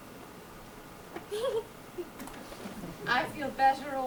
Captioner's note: Cecily giggles